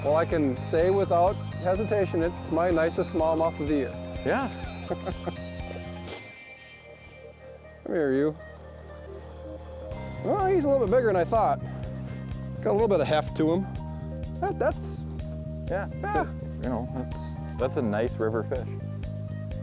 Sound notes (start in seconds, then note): 4.3 laughing